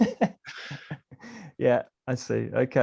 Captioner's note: laughing